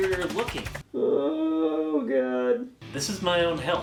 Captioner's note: groaning, almost crying